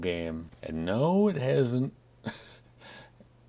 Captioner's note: chuckles